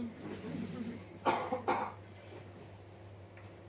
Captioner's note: audience member coughs